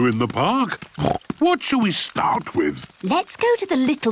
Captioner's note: snorts